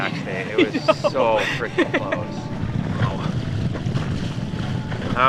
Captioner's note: laughing